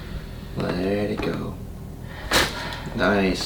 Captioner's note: cracking noise